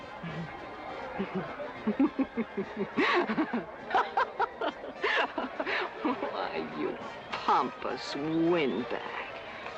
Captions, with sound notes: (laughing) - Why, you pompous windbag.